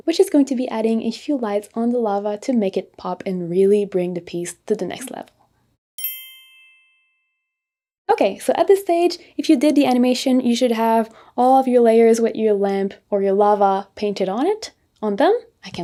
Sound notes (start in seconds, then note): 6.0 bell dings